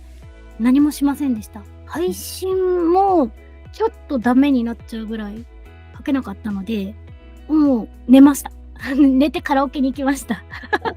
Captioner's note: laughs